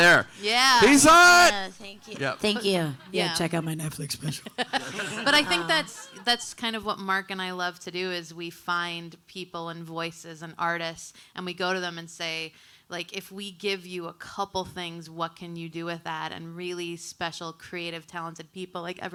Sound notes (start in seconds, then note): 4.2 audience laughing